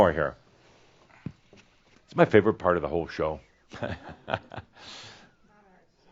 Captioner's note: chuckles